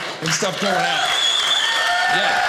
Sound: audience cheers

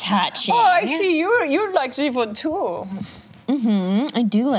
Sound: imitates German accent

